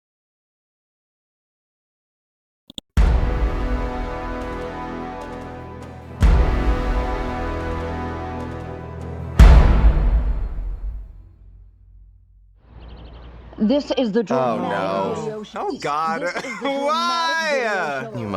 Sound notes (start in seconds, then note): 2.7 mouse clicks; 3.3 dramatic chord; 6.1 dramatic chord; 9.2 dramatic chord